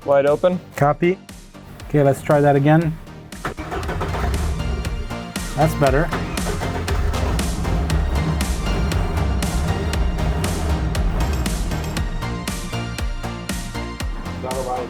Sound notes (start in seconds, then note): 3.5 engine turns over; 6.9 engine starts; 11.8 upbeat music continues